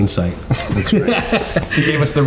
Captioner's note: all laughing